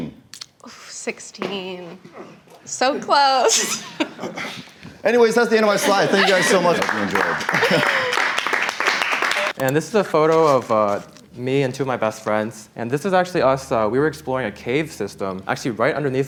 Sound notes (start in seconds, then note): 7.8 people clapping